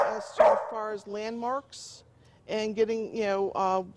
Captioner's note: dog barking